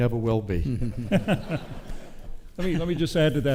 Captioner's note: speakers chuckle